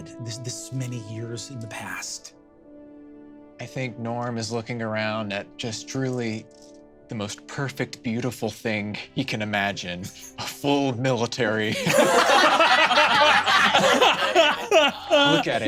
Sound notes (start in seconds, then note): 11.7 laughs